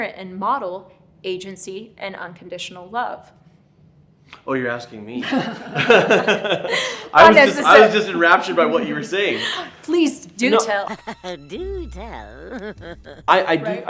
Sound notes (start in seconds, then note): 5.7 laughing; 10.7 evil laughing